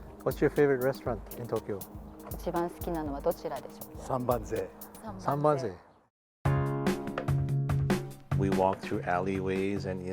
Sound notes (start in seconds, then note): 2.7 speaking foreign language; 6.5 upbeat music